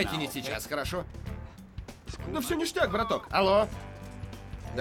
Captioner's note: spanh accent